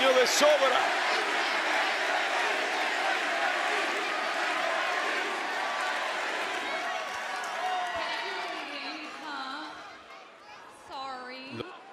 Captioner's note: applause